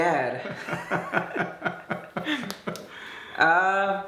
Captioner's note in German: Papa kichert